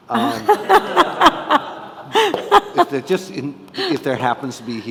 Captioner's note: all laughing